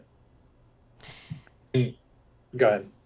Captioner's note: inhales deeply